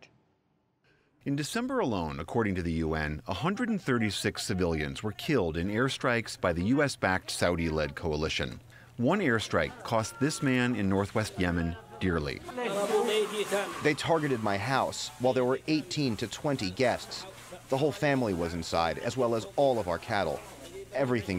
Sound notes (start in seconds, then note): 13.0 through translator